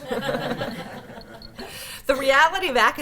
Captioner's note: laughter